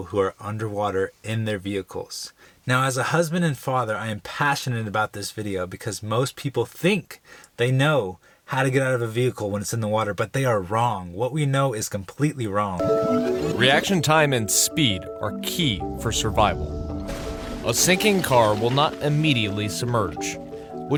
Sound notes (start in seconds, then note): 13.0 rewinding noise